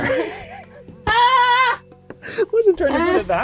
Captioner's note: all laugh